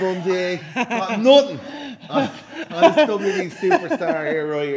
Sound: laugh

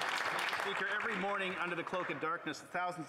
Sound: applause

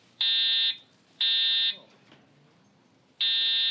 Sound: alarm ringing

